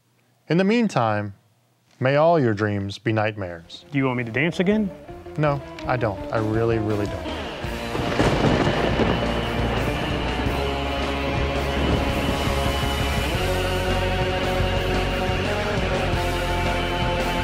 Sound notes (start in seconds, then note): 8.0 lightning strikes; 11.9 spooky rock music